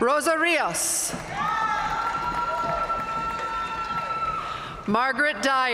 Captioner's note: audience cheering and applauding